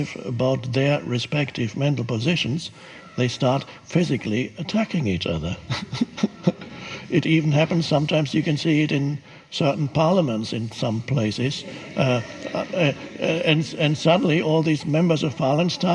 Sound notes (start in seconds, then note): 4.4 chuckles; 11.1 audience giggles